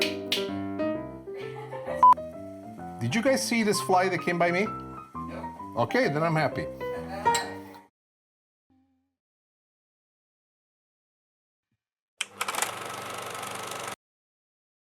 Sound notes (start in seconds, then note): 0.0 snaps; 1.3 laughing